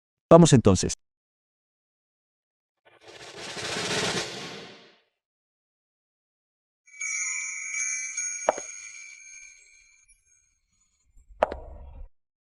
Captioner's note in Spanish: campana